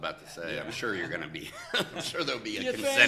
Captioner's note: laughs